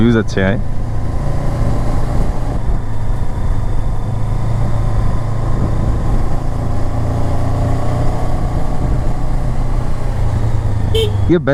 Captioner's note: engine thrum